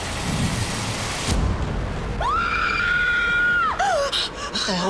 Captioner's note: screams